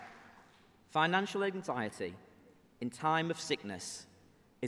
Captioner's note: applause